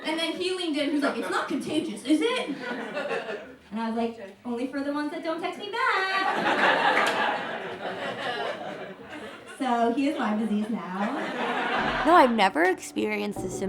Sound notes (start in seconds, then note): 2.3 audience laughs; 6.1 audience laughs